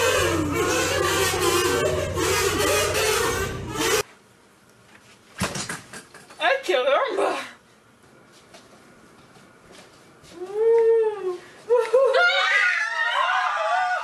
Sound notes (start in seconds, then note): 10.4 ghost woo